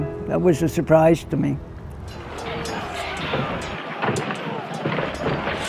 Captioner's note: battle sounds